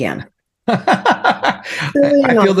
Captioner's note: laughing